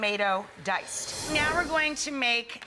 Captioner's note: whooshing